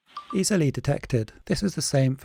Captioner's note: phone beeps